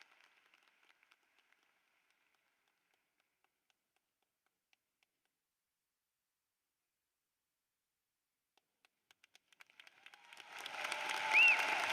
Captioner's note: applause